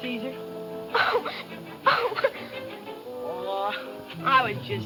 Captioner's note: crying